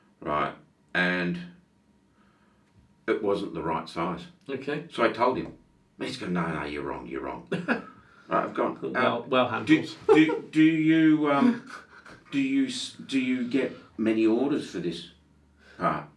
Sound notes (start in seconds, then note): 7.4 laughing